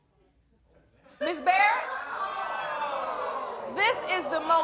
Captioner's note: audience groaning